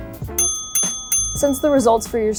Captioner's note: bell rings